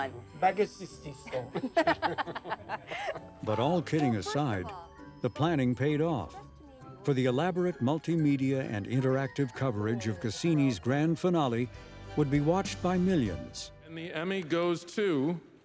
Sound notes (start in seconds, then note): 1.3 laughing